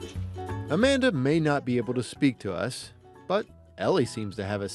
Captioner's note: voiceover